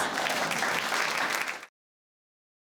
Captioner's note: audience claps